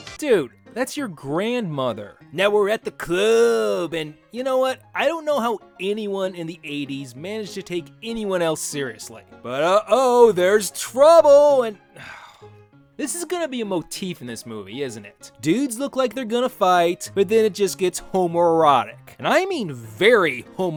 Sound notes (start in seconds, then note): 11.9 sigh